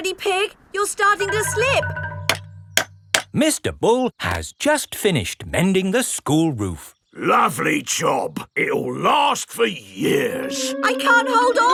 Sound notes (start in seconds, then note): 2.9 clanking